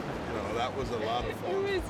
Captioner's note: water flowing fast